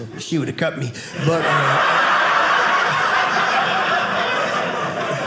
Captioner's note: audience laughing